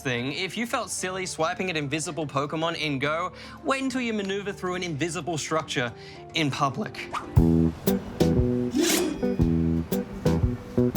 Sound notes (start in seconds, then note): 8.7 shwing!